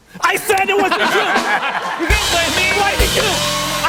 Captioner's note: laughter and applause